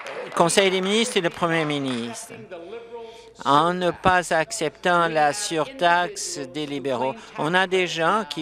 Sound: applause

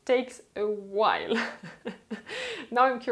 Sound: laughter

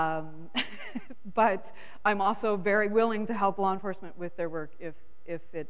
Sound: chuckles

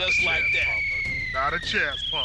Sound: whistle blows

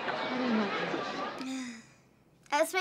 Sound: sighing

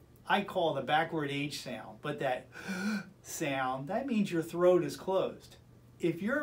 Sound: vocalizing

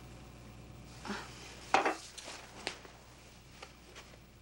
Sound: woman scoffs

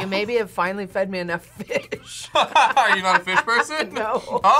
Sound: laughs

